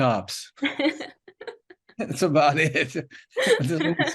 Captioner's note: laughing